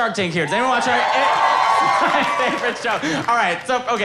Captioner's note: audience cheering